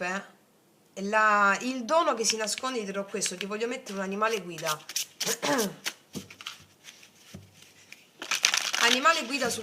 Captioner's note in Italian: schiarire la voce